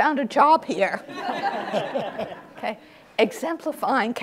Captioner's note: audience laughs